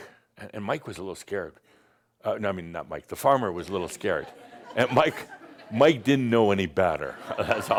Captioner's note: some chuckles; more laughter